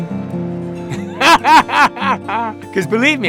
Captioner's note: hearty laugh